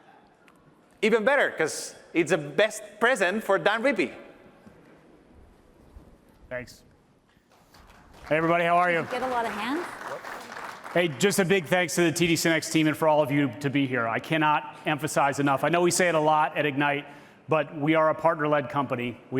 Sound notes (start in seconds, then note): 7.5 applause